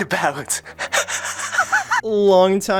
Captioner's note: deranged laughter